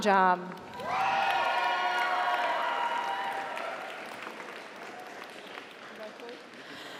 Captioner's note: audience applauds; audience cheers